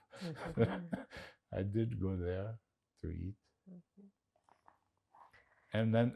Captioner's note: laughing